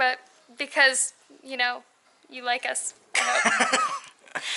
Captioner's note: laughter